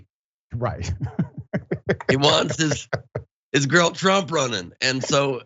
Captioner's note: laugh